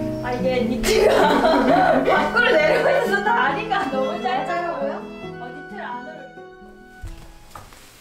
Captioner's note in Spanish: las hermanas se ríen